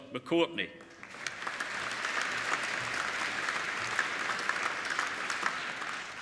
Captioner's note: applauding